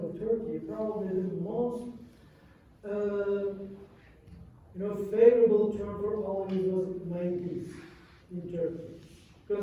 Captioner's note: non-english